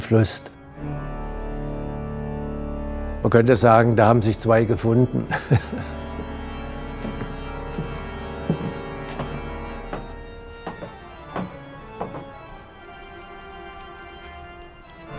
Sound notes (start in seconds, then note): 5.1 laughs; 6.0 heavy organ music